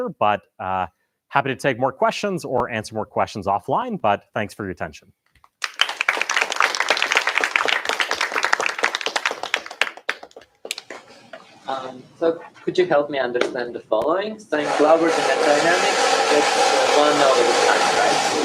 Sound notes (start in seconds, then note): 5.6 applause; 14.6 whirring